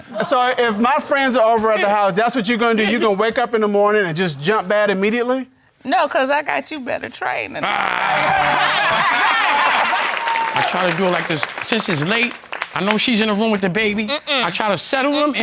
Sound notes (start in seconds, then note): 7.6 laughs